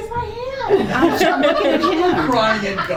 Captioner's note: committee laughs